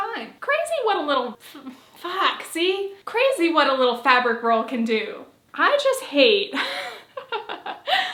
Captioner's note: laughs